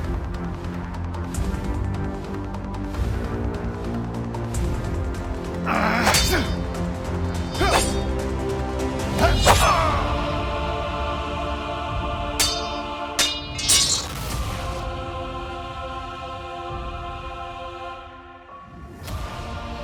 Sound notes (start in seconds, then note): 5.8 swords clanking; 8.9 dramatic music; 9.2 Isaac screaming; 12.4 dramatic music